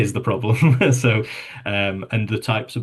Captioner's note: chuckles